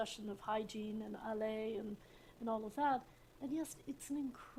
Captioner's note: french